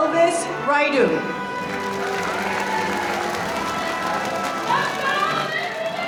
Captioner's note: audience applauding